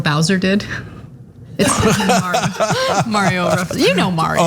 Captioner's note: laugh